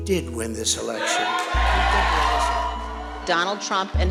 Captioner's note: crowd cheering